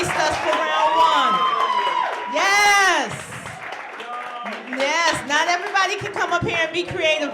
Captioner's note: applause